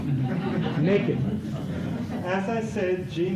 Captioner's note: laughter